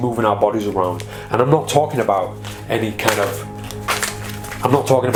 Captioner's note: cards shuffling